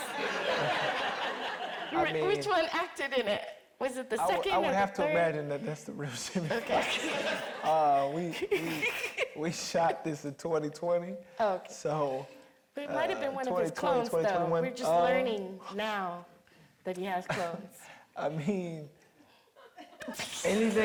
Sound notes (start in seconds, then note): 2.6 audience laughing; 11.2 Mireille laughing